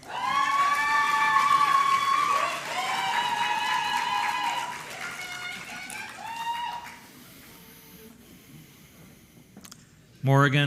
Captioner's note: applause